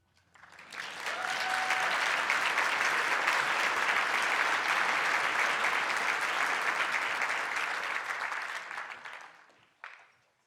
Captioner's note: audience applause